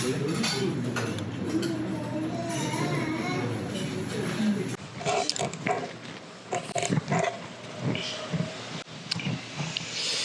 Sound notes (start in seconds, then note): 6.5 slurp